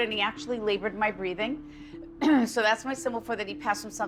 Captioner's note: coughs